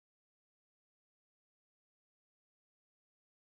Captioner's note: none